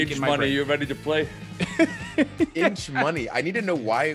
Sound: laugh

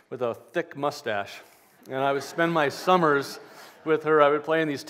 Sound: laughter

